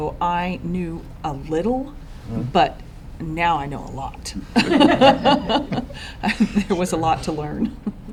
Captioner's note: laughter